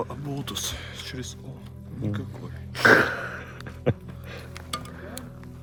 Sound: laughter

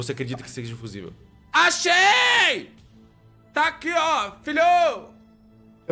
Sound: screaming

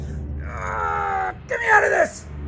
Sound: grunt

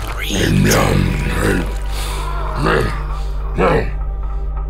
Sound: squelching mutation sounds

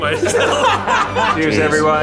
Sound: group laughs

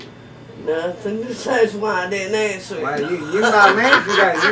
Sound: laughs

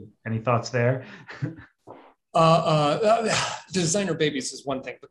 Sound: chuckles

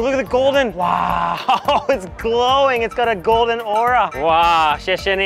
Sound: chuckles

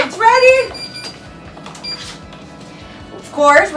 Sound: alarm beeping

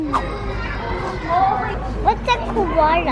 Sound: kids chattering

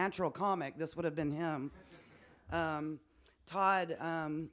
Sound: some chuckling

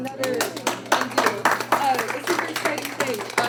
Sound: applause

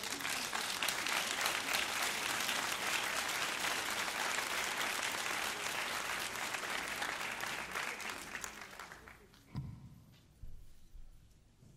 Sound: applause

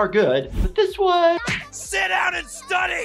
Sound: abusive smacking

